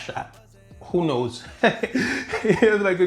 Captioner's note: laughing